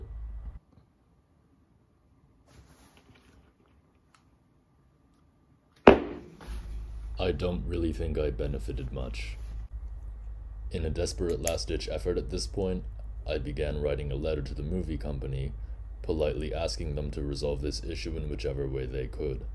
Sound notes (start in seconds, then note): 5.8 thud